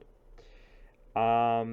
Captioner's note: inhale